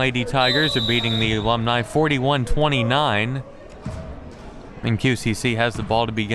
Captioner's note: whistle